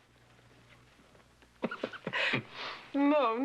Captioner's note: chuckling